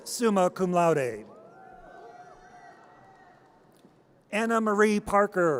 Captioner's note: audience cheers